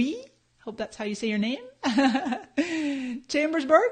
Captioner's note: laughs